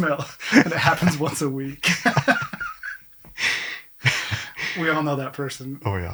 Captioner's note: both laughing